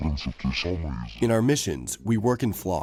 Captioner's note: through translator